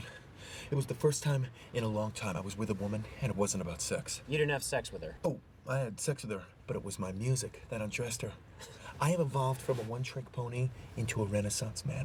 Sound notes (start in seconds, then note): 8.5 laughs